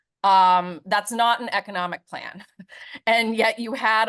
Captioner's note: chuckles